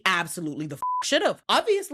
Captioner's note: beep